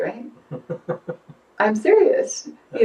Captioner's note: chuckling